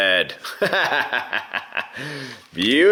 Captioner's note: laughter